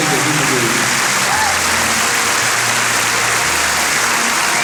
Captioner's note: applause